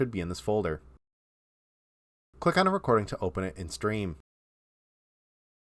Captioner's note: silent